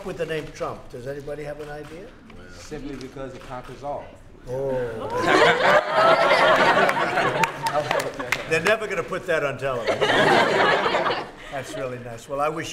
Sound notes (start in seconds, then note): 5.1 laughter